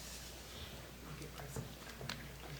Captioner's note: faintly speaking